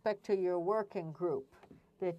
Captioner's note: speaking French